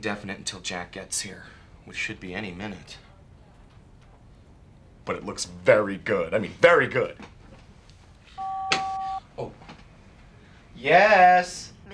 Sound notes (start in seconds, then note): 8.3 phone beeps